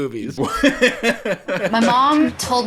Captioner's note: laughing